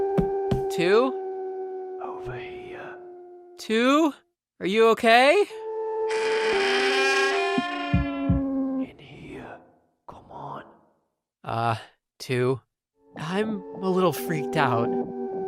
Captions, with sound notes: Two? Two [whispering]: Over here. Two? Are you okay? Two [whispering]: In here. Come on. Uh, Two, I’m…a little freaked out.